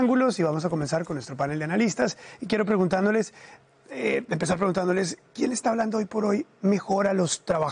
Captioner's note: HABLA EN INGLéS